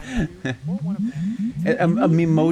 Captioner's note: anime smoke sounds